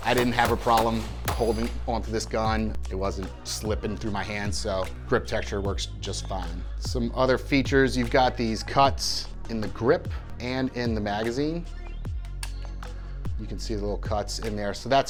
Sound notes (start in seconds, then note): 12.4 magazine clicks